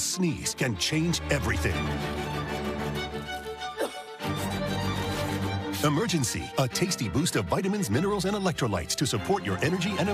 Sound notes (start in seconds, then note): 3.7 cough